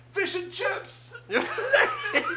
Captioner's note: loud laughter